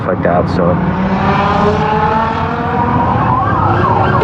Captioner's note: carngine roarg